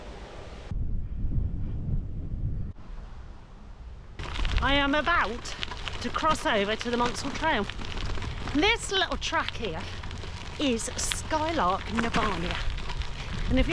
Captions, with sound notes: [Wind] I am about to cross over to the Monsal Trail. This little track here, is Skylark Navania and if